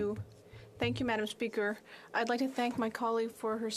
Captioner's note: speaking French